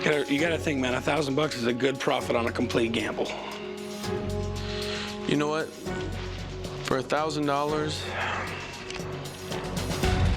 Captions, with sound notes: You got to think, man. $1,000 is a good profit on a complete gamble. You know what? For $1,000-- [sighs]